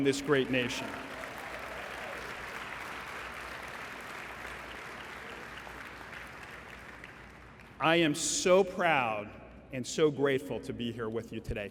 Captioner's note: applause